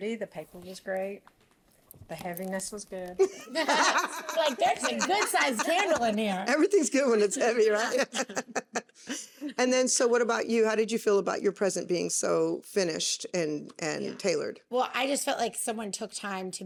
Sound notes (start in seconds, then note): 3.2 laughing; 7.2 laughs